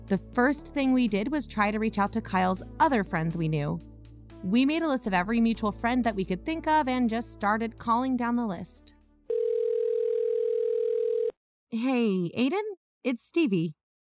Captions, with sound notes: The first thing we did was try to reach out to Kyle’s other friends we knew. We made a list of every mutual friend that we could think of, and just started calling down the list. (phone ring) STEVIE Hey, Aiden? It’s Stevie.